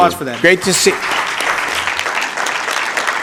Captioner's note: applause